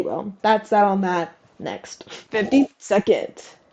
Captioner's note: laugh